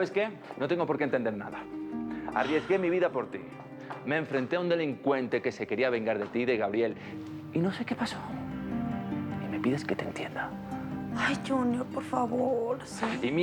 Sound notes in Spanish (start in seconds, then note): none